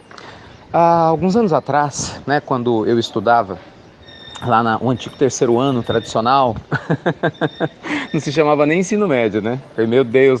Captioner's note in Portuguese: Risos